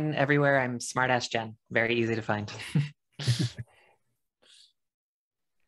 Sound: laughs

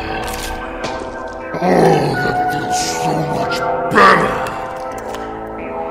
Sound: cracking sounds

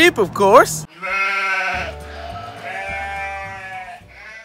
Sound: bleating

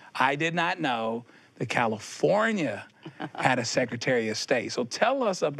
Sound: she chuckles

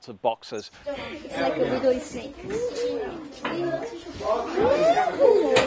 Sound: girls talking

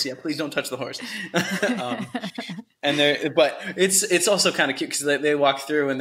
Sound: laughter

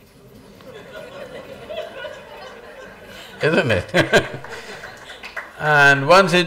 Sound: laughter

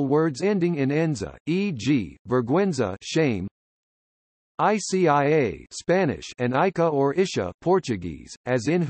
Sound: Spanish

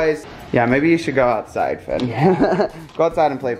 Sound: laughs

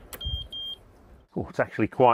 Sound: machine beeping

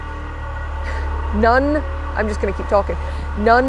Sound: loud, Groaning, Metal Scraping Noise

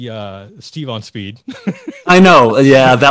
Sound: laughing

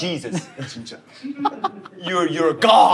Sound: Justin is lmfao-ing

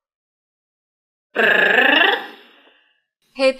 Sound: confused platypus sound

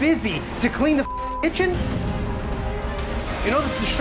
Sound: beeping

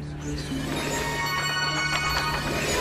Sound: tinkling

